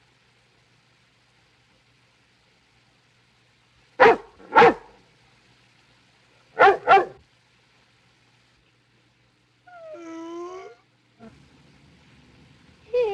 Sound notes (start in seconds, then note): 6.5 barking